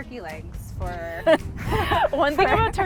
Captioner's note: laughter